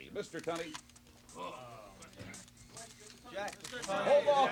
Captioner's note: cameras click